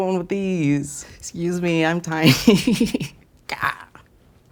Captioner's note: laughs